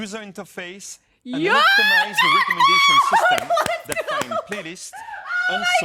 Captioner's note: claps